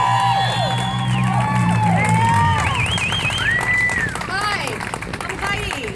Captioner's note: cheers